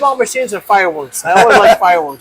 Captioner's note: laughs